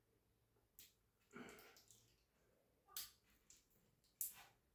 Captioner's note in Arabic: تنحنُح